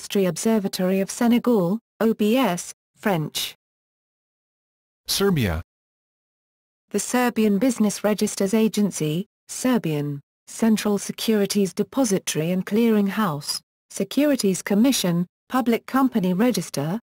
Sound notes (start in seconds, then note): 8.6 Serbian